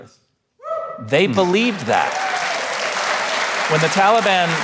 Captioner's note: audience applauding